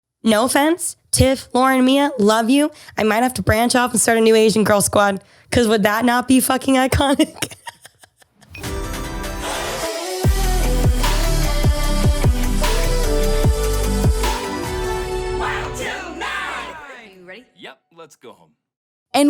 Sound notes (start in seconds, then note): 7.1 laughs; 8.9 upbeat music